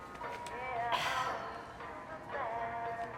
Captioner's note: sighs